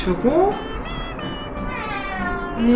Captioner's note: meeooow